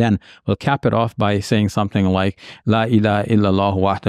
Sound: speaks in Arabic

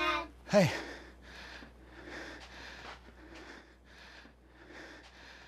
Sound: heavy breathing

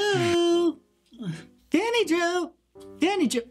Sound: sighs

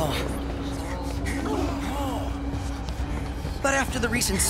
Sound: labored breathing

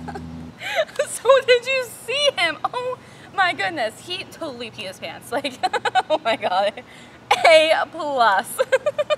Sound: laughing

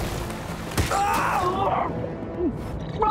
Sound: thudding; screaming

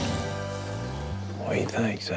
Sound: whispering

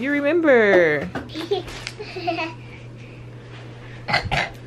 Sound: laughs

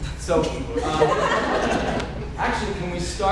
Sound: audience laughing

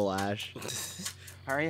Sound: laughter

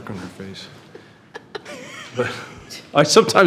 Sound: trustees chuckles

